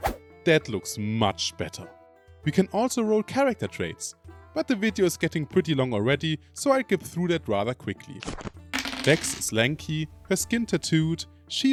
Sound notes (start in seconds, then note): none